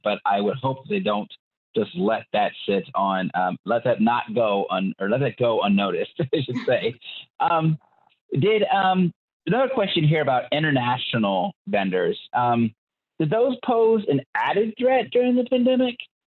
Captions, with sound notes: but I would hope they don't just let that sit on. Let's have not go on or let it go unnoticed. (both laugh) I should say. Did, another question here about international vendors, did those pose an added threat during the pandemic?